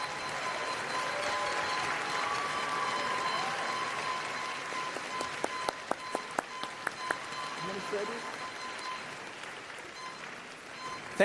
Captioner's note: applause